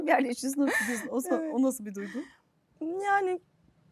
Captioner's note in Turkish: kahkaha